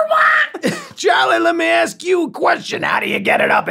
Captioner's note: chuckles